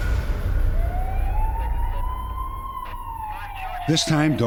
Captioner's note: sirens